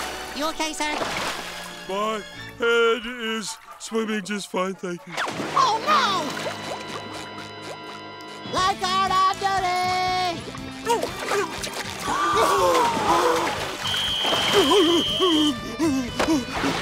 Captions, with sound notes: You okay, sir? My head is swimming just fine, thank you. Oh, no! Lifeguard on duty! [groaning, screaming] [whistling] [groaning]